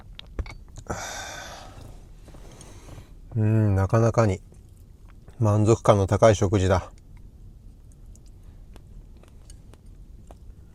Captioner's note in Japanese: ため息